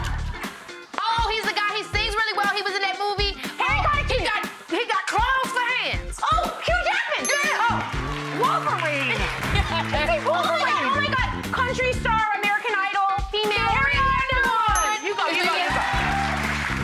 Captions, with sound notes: Oh, he's the guy, he sings really well. He was in that movie. Harry Connick, Jr! He's got claws for hands. Oh, Hugh Jackman! Yes! (bell dings) Wolverine! (laughter) Just say Wolverine! Oh my God, oh my God! Country star, American Idol, female. Carrie Underwood! (bell dings) (audience applause) You go, you go.